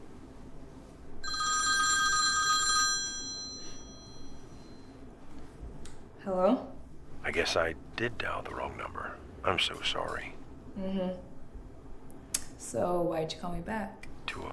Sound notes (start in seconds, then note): 1.2 phone rings